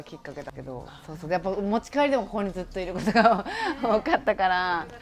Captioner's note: laugh